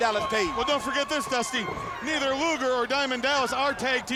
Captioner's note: crowd clamoring